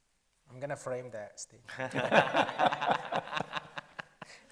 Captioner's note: panel laughs